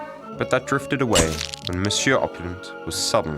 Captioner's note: shutter clicks